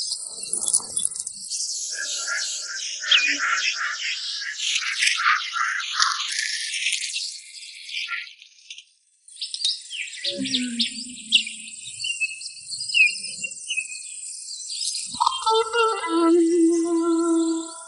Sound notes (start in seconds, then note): 7.6 light guitar music; 9.4 birds chirping